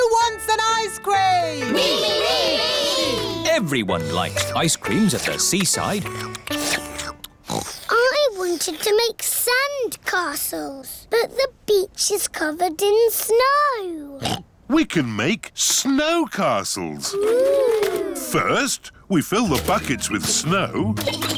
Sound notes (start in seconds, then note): 6.1 slurping; 7.4 oinks; 14.2 oinks